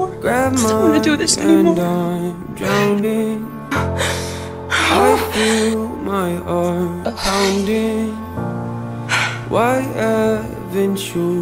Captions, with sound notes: I don't want to do this anymore. [ sobs ] [ groans ] [ exhales ] [ heavy exhale ]